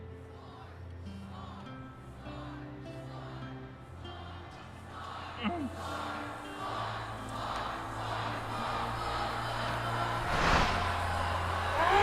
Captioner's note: crowd chanting